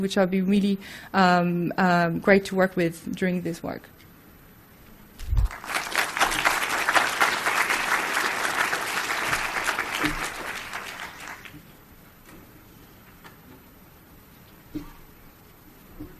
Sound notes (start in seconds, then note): 5.4 applause